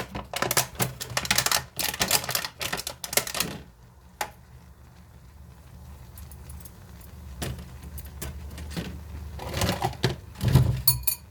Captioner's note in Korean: 플라스틱용기소리와 면은 끓고있다